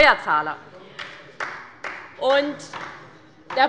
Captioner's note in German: Beifall der Abg